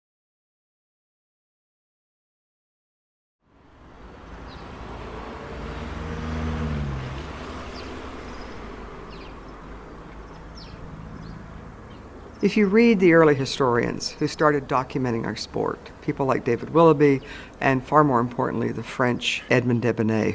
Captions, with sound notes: [cars driving] [birds chirping] If you read the early historians, who started documenting our sport, people like David Willoughby, and far more importantly, the French Edmond Desbonnet